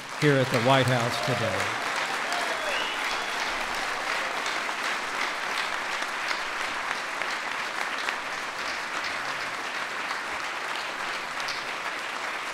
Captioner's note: applause